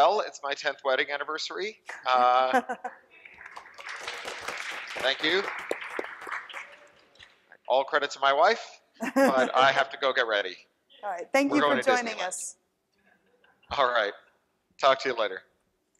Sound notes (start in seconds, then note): 2.0 chuckles; 3.2 audience clapping; 9.0 chuckles